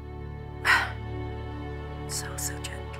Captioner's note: sighs